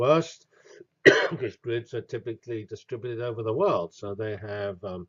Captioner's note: cough